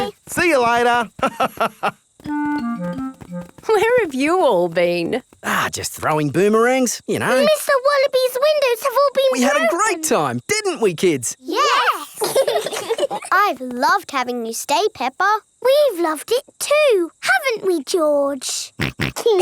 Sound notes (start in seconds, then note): 1.2 laughs; 11.9 laugh; 19.2 laughs; 19.2 snorts